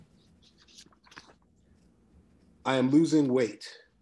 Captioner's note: pages rustling